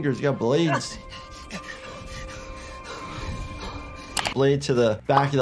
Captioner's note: heavy breathing